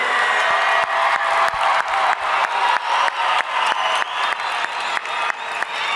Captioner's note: audience cheering and applauding